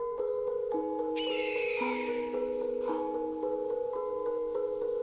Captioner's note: light music; birds calling